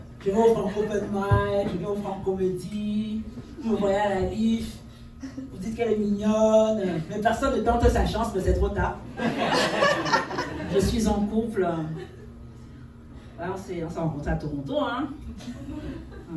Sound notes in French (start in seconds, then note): 9.1 rires